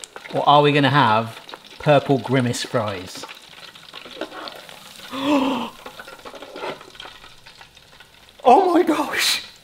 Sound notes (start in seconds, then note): 4.0 pan clanking; 5.0 gasps